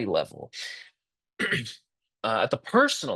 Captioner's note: interpreter clears throat